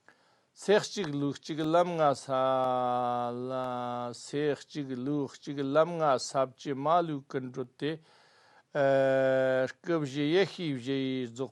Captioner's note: tibetan